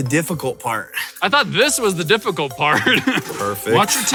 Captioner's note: laughs